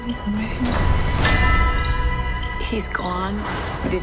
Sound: bell tolls

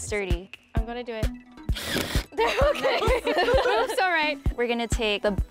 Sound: drill; laughter

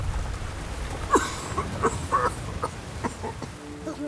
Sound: coughing

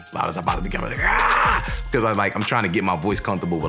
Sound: screaming

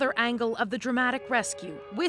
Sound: train whistle

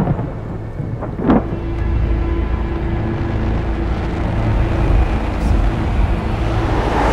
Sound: thunder roaring; dramatic music

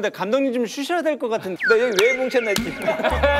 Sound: haha

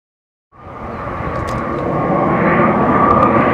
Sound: car engine roaring throughout video

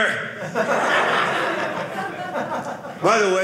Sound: audience laughing

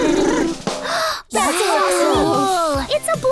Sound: drumming; gasping

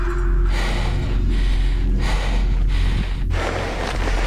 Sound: panting

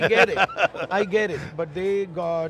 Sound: laughs

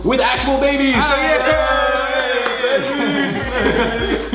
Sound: they cheer

